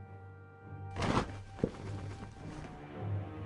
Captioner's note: cape fluttering